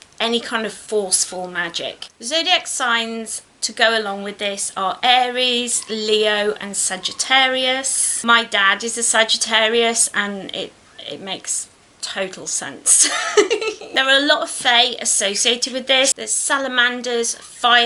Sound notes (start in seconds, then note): 13.0 laughs